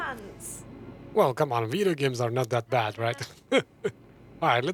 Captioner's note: laughs